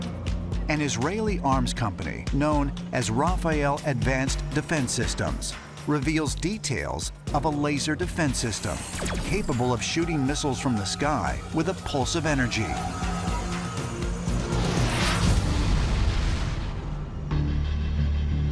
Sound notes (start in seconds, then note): 14.4 missile zooming